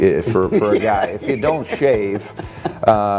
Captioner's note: laughing